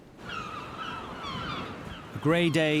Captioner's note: birds chirping